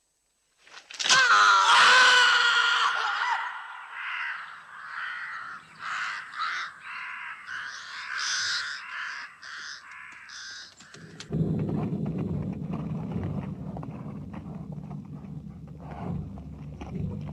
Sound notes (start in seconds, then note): 1.0 Sumayyah and Ammar screaming; 3.8 birds cawing; 11.3 dramatic music